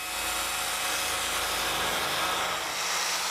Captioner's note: whirring saw noises